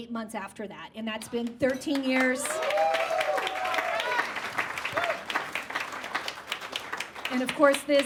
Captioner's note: audience claps and whoops